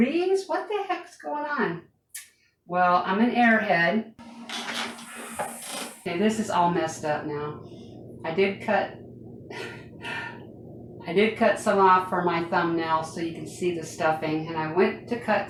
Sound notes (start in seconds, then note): 9.5 laugh